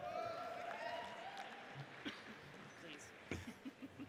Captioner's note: audience cheers